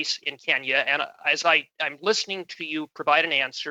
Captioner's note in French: voix de l'interprète